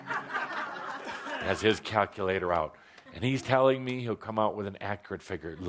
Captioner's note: laughter